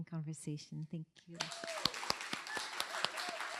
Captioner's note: cheers and applause